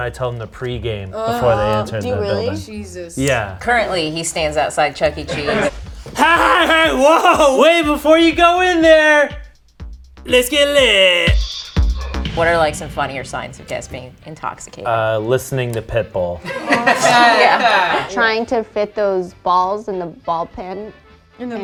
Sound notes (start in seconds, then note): 11.4 upbeat music; 16.4 group laughs